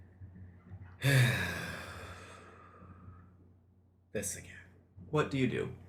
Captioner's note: sighs